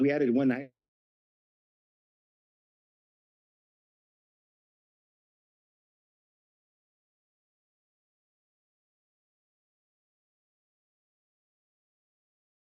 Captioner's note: silence